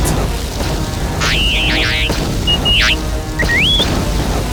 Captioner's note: t3-m4 beeps